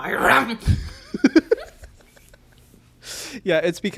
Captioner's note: both laugh